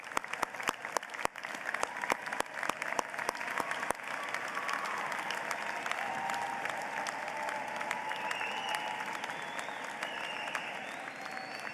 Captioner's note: applause